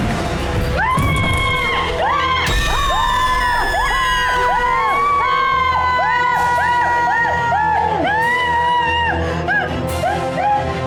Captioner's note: screams